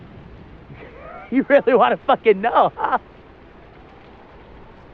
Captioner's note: laughing